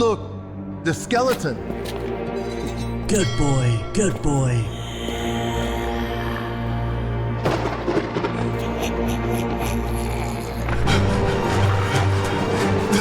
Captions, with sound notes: Look, the skeleton. Good boy. Good boy. (Lightning sound) (Scary music)